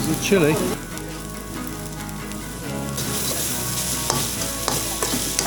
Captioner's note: sizzling